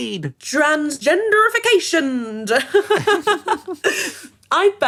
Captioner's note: laughs